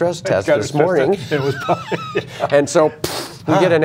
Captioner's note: laughter